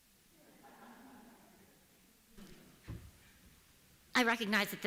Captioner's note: laughter